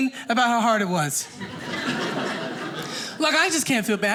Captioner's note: audience laughing